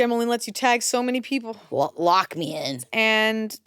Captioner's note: none